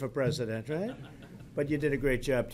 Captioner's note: laughter